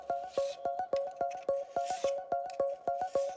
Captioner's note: scraping; light electronic music